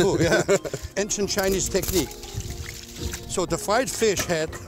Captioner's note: stirring liquid